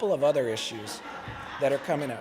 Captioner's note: laughter